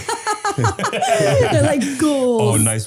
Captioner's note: all laughing